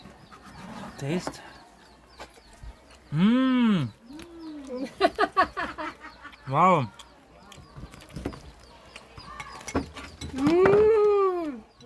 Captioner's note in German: gelächter